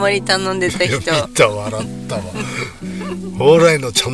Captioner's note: laughs